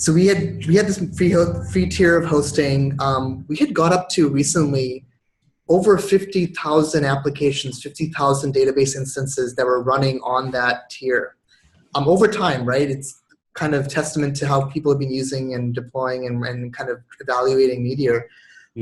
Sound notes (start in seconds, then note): none